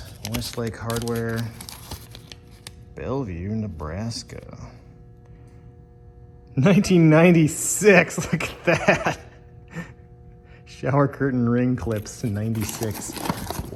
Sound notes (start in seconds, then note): 8.2 laughs